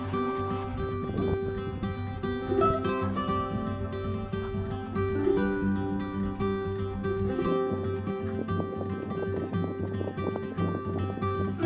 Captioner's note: wind blowing